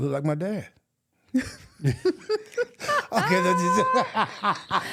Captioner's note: laughing